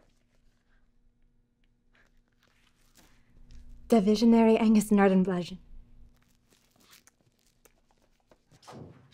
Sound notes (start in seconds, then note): 3.8 woman speaking in a foreign language